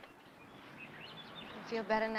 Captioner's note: birds chirping